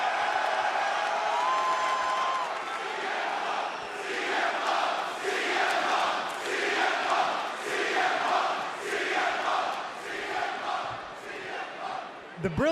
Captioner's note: crowd chants "cm punk"